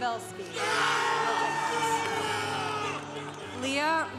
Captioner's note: congregation cheering